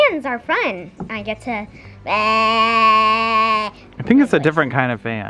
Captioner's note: mimics groaning into a fan